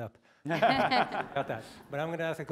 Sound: laugh

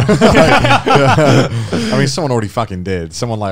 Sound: both chuckles

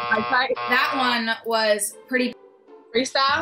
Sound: buzzer

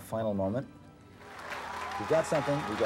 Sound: crowd cheering

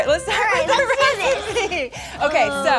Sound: all laughing

